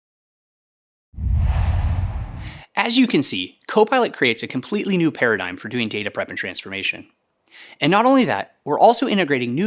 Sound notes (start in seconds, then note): 1.2 logo swooshes